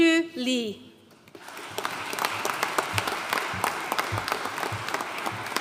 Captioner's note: audience applauding